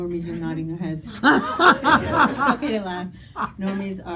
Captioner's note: audience laughing